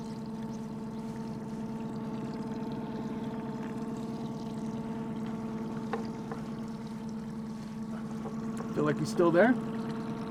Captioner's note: boat engine idling